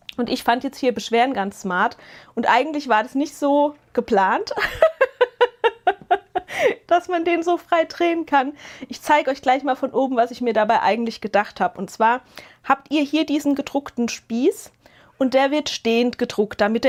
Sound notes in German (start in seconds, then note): 4.5 gelächter